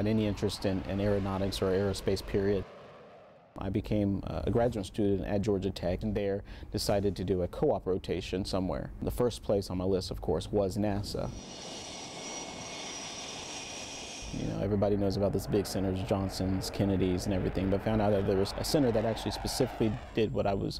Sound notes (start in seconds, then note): 11.3 sound of jet engine